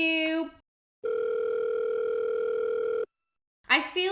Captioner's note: phone rings